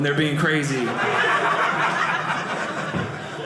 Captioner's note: audience laughing